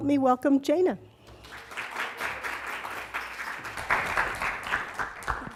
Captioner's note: applause